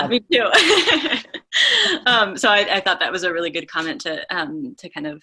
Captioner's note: laughs